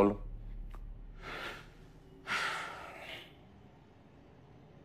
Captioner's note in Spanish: Suspiro